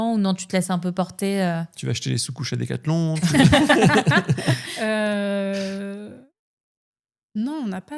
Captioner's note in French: rires